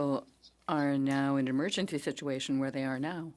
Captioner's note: speaking French